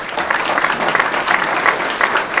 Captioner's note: applause